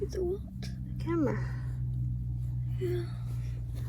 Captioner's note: the quiet hum of traffic can be heard from outside